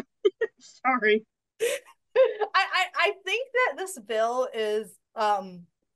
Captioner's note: laughs